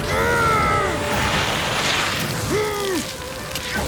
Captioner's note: snow scraping